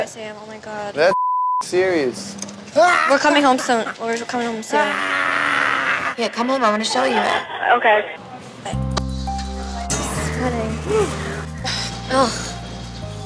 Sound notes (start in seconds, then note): 2.5 cackling; 4.8 Mike cackling and screaming